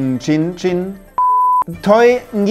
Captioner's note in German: Piepton